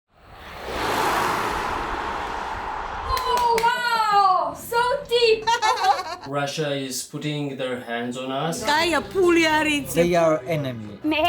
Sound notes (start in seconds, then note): 5.2 laughing; 8.6 speaking Georgian